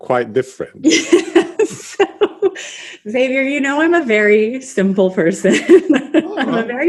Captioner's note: laughs